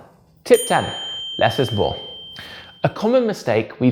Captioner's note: bell dings